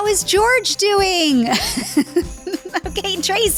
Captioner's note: laughter